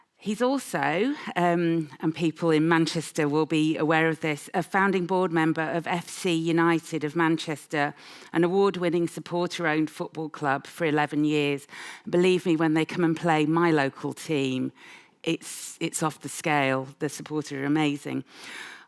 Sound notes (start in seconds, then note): none